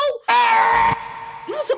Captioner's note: growling